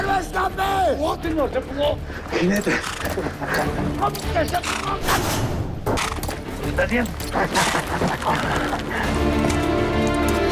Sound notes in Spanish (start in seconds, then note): 0.4 Habla entre dientes; 2.2 Resoplidos